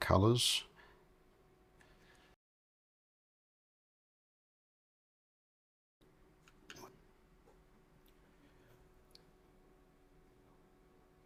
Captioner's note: silence